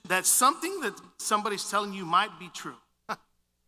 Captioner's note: brief laughter